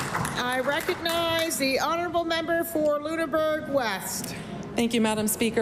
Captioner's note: applause